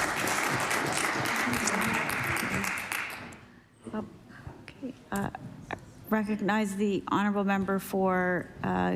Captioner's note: applause